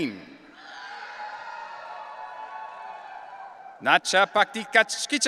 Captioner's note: audience cheering